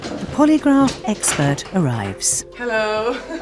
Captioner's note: voiceover